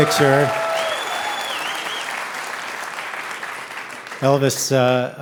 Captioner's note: audience cheering